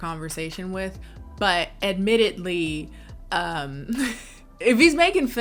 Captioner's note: chuckles